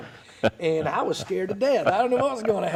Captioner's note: laughing